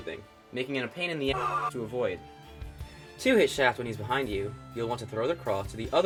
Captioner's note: flame Demon scream